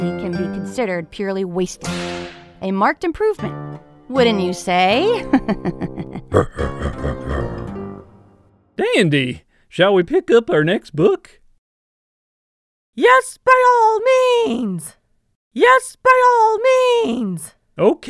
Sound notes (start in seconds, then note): 5.2 chuckles; 5.2 laughs